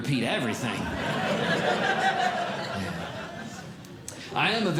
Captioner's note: audience Laughing